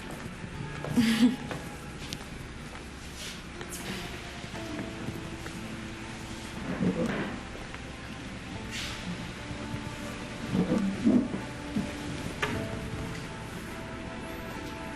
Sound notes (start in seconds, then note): 0.9 chuckles